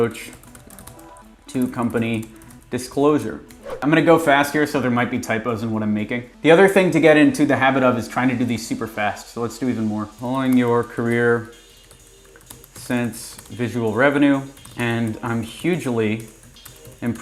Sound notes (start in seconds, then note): 0.1 keyboard typing; 10.4 keyboard typing